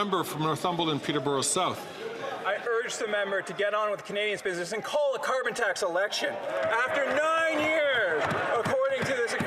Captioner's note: some Applause